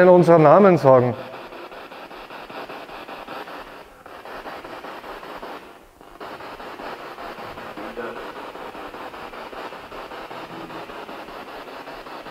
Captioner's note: noise of the spiritbox in the background